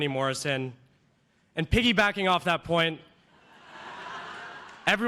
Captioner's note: cheers and applause